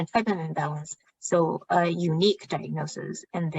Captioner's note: speaking chinese